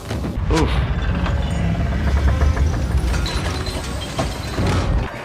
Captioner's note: ground rumbling